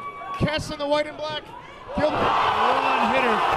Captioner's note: crowd cheering; crowd cheering